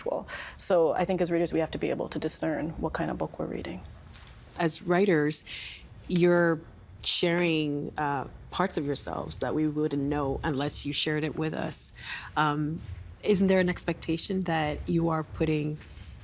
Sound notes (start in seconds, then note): none